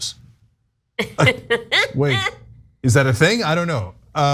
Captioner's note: laugh